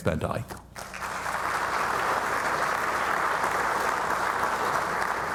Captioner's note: audience applauding